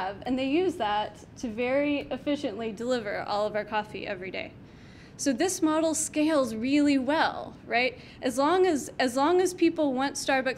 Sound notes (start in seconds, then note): none